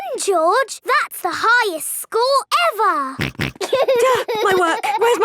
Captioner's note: snorts; giggling